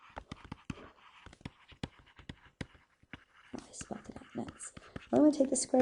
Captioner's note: continued stylus writing on board